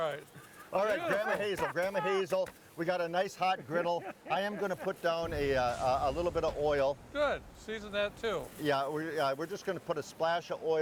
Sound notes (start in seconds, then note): 1.0 laughing